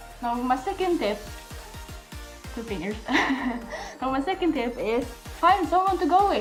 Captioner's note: laughs